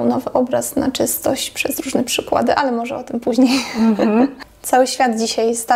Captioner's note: laughs